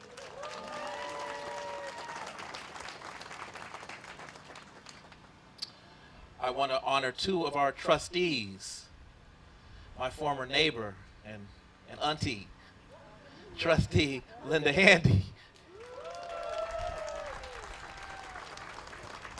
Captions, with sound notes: [APPLAUSE] I want to honor two of our trustees, my former neighbor and an auntie, trustee Linda Handy. [APPLAUSE]